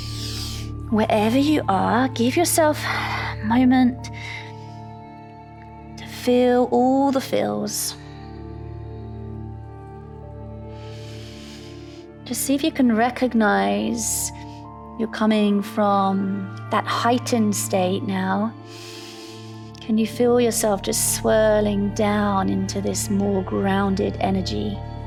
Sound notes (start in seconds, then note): 0.0 inhales; 8.7 calm music; 10.8 inhales; 18.6 inhales